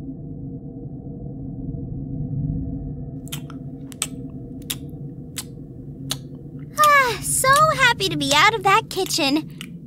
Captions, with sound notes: (annoyed chewing) "Ah, so happy to be out of that kitchen."